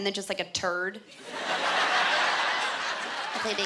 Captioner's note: laughter